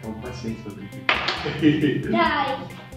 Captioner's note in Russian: Смех